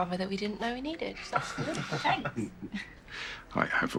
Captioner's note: the group chuckle